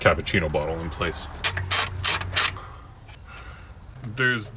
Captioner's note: ratchet clicking